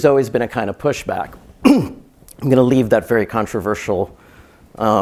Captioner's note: cough